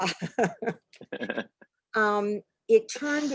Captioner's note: laughs